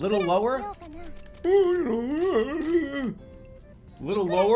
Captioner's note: mocking voice